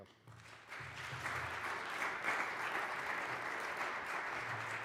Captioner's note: applause